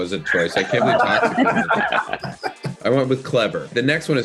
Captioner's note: group laughing